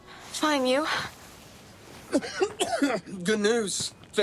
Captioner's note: coughing